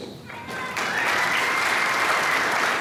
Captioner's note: applause